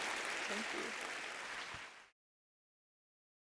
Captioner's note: applause